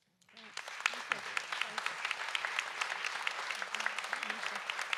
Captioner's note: audience applauds